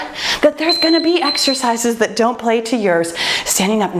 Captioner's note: timer beeps